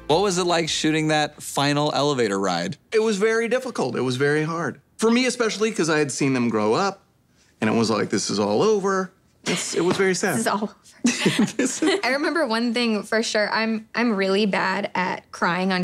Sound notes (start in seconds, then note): 11.0 laughing